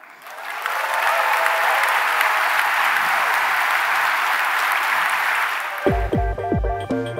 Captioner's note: cheering and applause